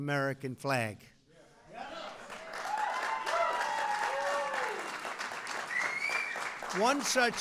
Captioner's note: applause